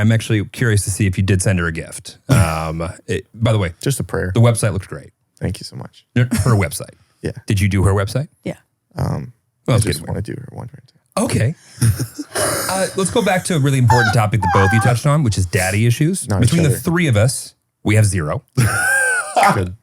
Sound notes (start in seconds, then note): 11.8 group laughing; 15.8 speaking faintly; 18.6 laughs